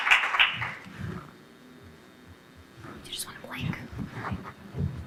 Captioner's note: applause